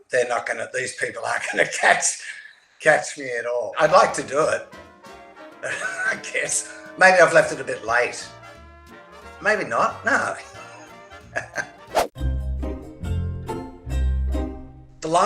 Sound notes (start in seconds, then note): 10.1 chuckles; 11.9 bright upbeat music